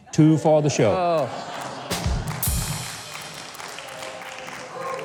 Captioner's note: audience applauds